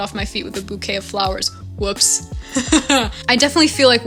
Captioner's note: laughs